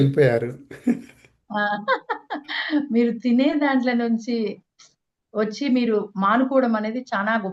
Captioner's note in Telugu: నవ్వు